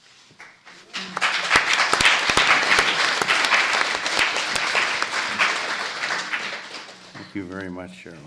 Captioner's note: applause